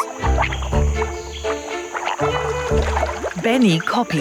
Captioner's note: upbeat music; burbling